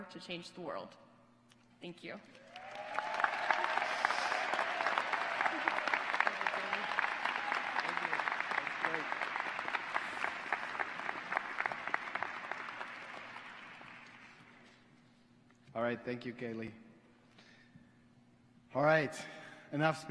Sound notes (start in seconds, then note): 7.2 applause